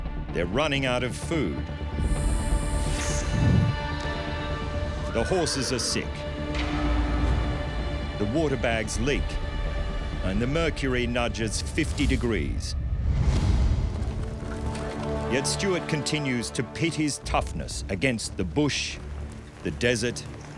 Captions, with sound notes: They're running out of food, [snake rattles] -[horse neighs] -The horses are sick, the water bags leak and the mercury nudges 120 degrees. [horses trotting] Yet Stuart continues to pit his toughness against the bush, the desert